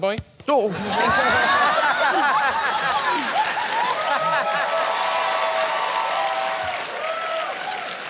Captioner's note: laughter, cheering